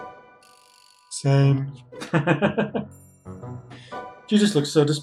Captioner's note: laughs